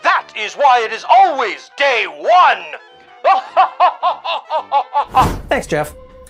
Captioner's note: laugh